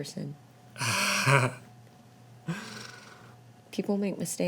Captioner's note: laughing happily